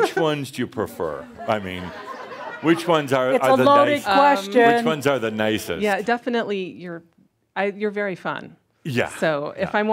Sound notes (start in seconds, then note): 2.0 some laughter